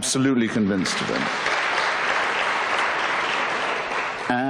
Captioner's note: applause